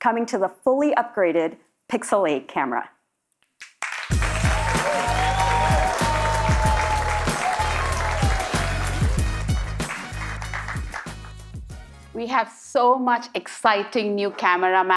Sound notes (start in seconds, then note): 4.1 audience cheering; 5.6 applause